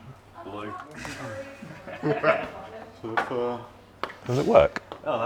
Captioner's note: laughs